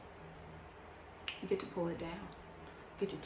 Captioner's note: snaps